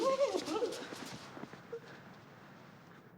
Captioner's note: exclaiming disgustedly